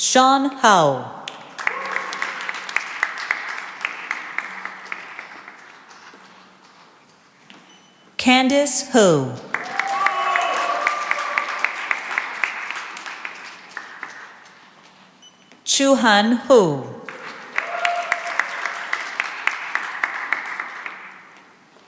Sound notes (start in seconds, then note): 1.4 cheering and applause; 9.4 cheering and applause; 17.0 cheering and applause